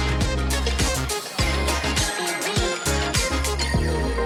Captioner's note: # upbeat music #; background chatter